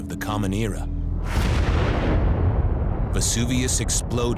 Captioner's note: eruption echoes